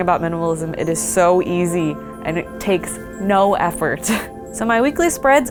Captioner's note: laughs